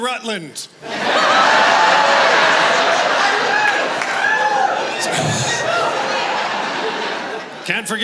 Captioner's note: laughter